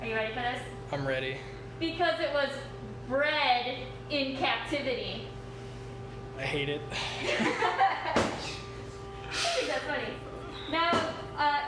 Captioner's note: laughter